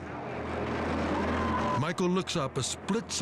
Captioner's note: aunt screams